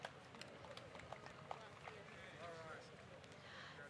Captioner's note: applause